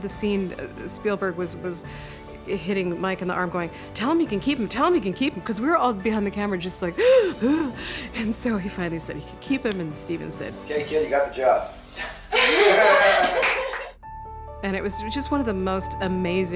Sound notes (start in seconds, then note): 7.0 imitates sobbing; 12.2 laughter